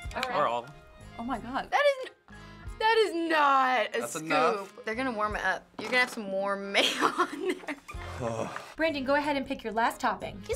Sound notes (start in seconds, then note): 7.9 sighs